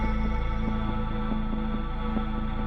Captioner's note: none